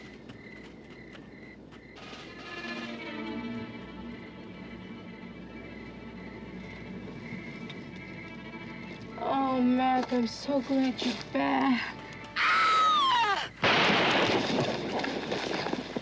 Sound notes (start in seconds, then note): 12.4 Sally çığlık atıyor; 13.6 silah ateşleme